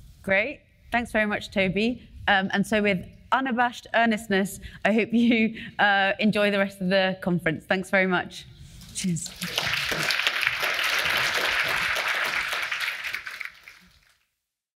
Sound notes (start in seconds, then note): 9.2 audience applauding